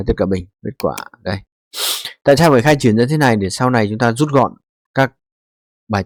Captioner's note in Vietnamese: khịt mũi